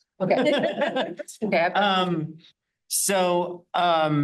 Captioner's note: laughing